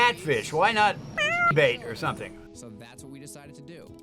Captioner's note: cat meows